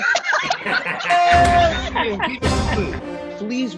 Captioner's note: group laughs and claps